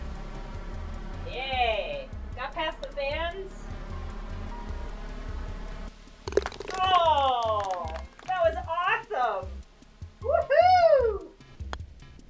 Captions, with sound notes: - Yea! Got past the fans. (ball falls in cup, applause) Oh! That was awesome! Woo-hoo!